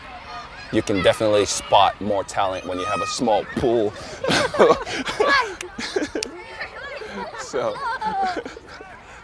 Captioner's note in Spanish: niños jugando en el fondo